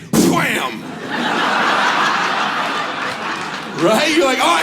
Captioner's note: audience laughs